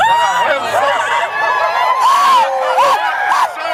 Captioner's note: cheering